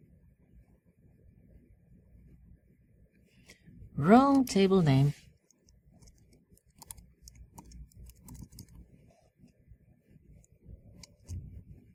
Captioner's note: pause